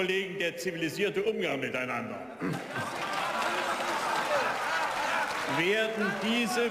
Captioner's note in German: Beifall